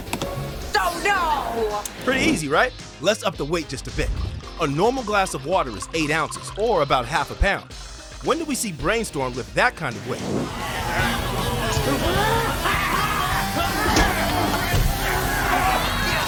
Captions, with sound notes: Oh, no! Pretty easy, right? Let's up the weight just a bit. A normal glass of water is eight ounces, or about half a pound. When do we see Brainstorm with that kind of weight? [shouting] [grunting]